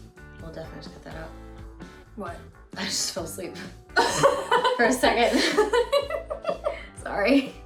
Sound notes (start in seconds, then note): 4.0 laughter